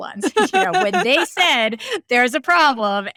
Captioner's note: laughing